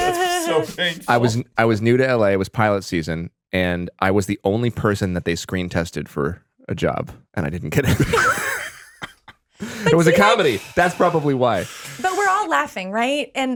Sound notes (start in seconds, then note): 7.9 laughing